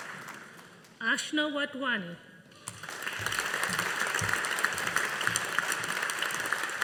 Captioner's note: audience applauding